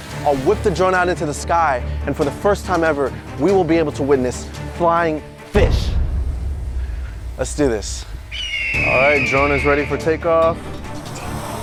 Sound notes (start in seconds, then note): 8.3 bird squawks